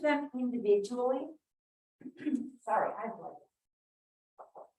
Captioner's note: clears throat